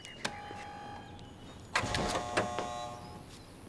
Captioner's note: doorbell rings; buzzer buzzes